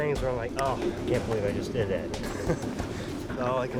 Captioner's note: chuckles